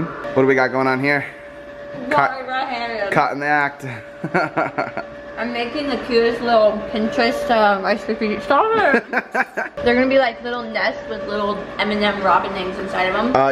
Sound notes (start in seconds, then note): 4.2 laughs; 8.7 laughs